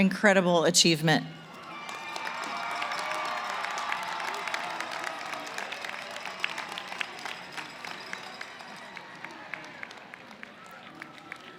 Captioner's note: cheering & applause